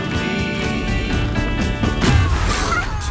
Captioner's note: purring